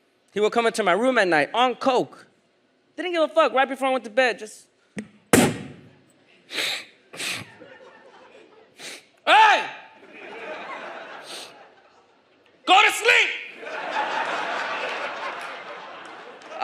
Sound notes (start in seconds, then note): 5.0 foot stomps; 6.5 nose sniffs; 7.4 audience laughs; 13.4 audience laughs